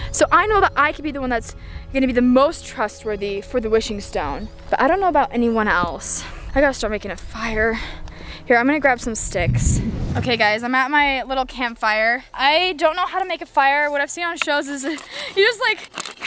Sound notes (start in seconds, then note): 6.4 ominous music; 9.2 air whooshing